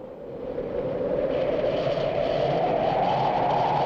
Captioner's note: wind howling